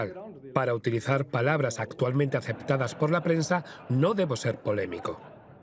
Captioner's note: audience laughing